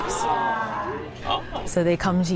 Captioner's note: all exclaiming